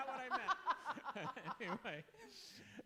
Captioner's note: laughing